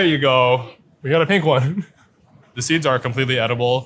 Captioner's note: chuckles